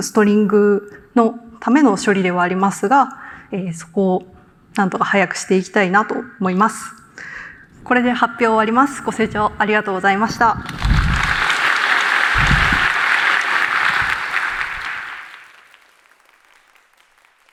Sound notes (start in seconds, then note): 10.6 applause